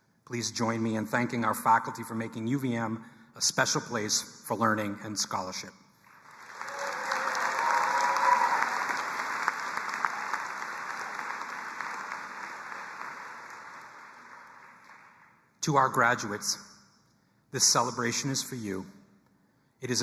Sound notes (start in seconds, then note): 6.2 audience applauding and cheering